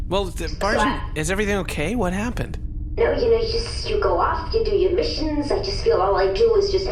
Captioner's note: none